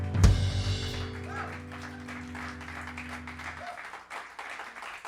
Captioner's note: cheers and applause